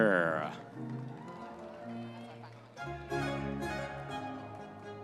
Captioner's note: audience members cheering